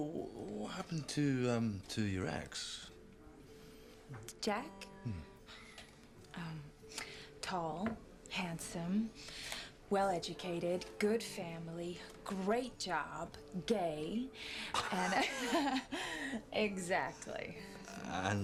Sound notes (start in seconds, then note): 14.7 Kate laughs; 14.8 Rob laughs